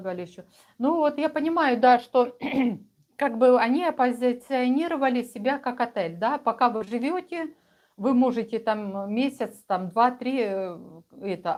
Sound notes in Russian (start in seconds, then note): 2.4 откашливается